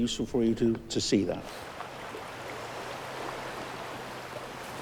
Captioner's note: babbling brook